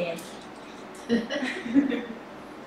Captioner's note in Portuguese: risos